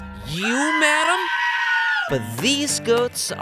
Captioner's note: lady screams